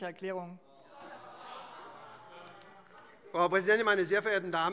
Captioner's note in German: Zurufe SPD: Oh! - Weitere Zurufe